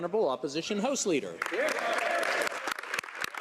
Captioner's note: speaking French